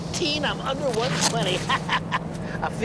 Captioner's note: laughs